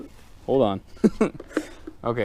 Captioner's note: laughing